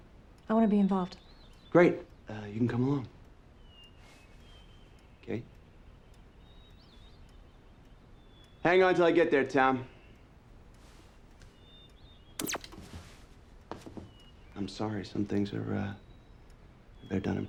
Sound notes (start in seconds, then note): 12.4 tv turns off